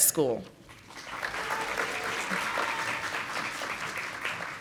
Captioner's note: audience applauding